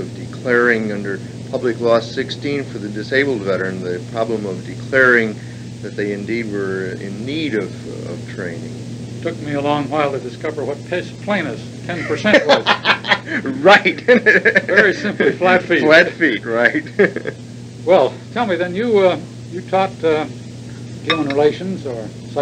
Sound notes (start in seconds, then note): 11.9 both laugh; 11.9 laughs